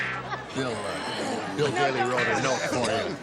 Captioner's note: laughs